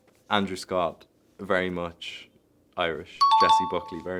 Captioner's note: chime dings